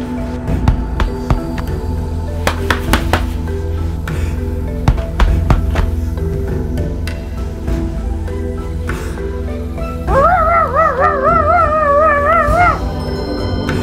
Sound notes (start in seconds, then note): 10.0 imitates gorilla